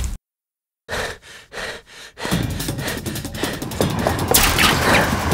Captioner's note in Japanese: 息切れ; 柵を強く掴む音